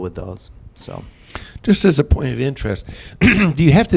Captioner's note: clears throat